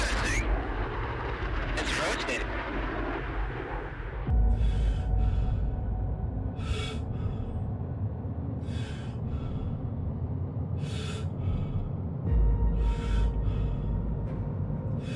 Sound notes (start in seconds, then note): 5.2 soft suspenseful music; 6.5 pilot breathing heavily